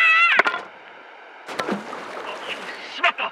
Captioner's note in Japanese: 川に落ちた音